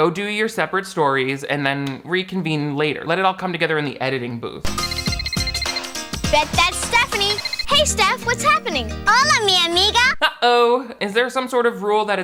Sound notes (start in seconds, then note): 4.6 upbeat music; 4.7 phone rings; 9.2 speaks in Spanish